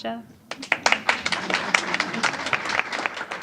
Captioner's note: applause